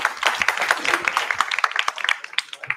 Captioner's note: applause